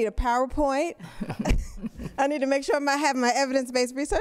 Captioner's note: laughter